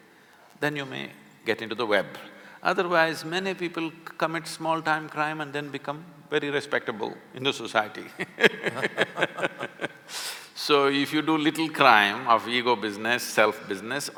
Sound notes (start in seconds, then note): 8.0 both laugh